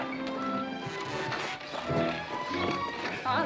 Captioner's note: carriage creaking